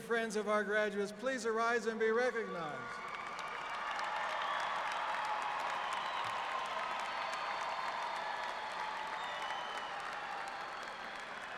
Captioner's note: applause